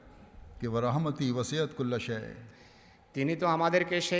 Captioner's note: Arabic